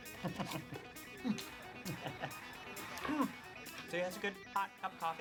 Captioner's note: chuckles